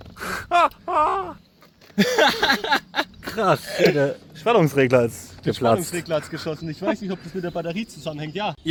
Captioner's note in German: gelächter